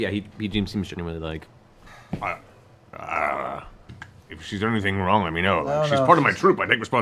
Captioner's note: stutters